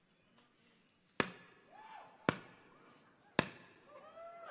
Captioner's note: staff thuds